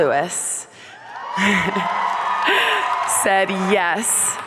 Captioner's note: audience cheering; chuckles